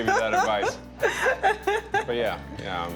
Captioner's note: laughing